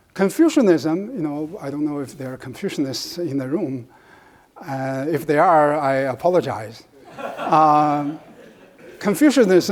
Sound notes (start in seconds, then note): 7.0 audience laughs